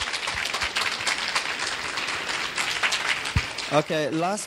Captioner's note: clapping